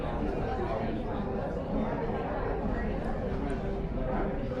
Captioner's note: noise of people talking in a cafe